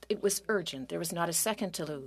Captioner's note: speaking French